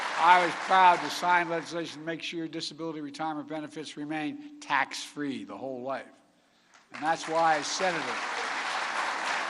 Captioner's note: applause